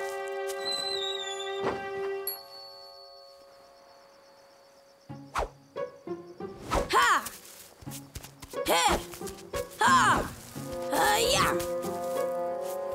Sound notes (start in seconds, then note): 0.2 squeaking; 6.4 grunting